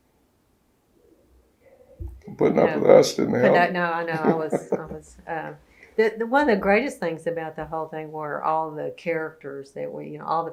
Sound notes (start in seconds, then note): 2.3 laughs